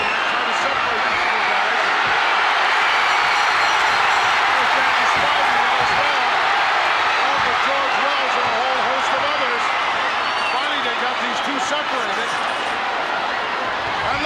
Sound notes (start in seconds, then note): 3.0 audience cheering; 3.0 bell ringing